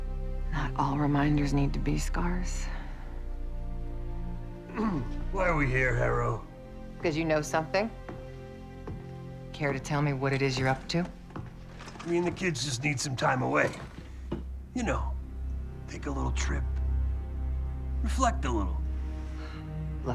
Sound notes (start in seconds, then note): 4.7 grunts